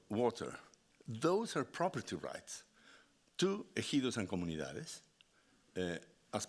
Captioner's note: speaking Spanish